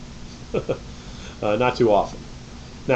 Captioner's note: chuckles